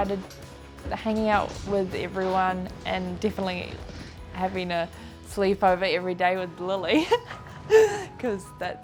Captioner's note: laughs